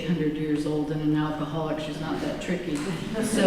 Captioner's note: laughter